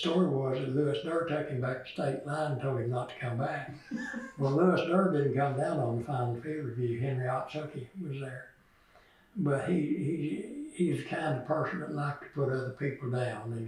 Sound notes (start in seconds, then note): 3.6 laughs